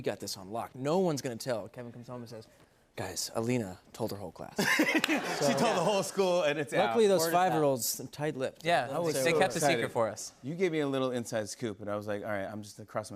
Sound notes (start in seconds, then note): 4.6 laughter